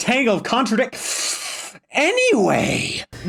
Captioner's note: breathes in